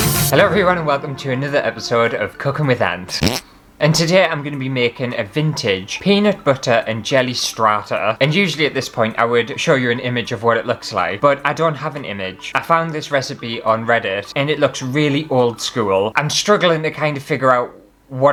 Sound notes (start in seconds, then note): 3.1 fart!